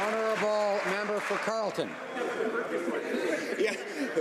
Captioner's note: some Applause